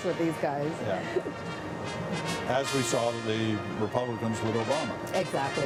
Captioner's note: laughter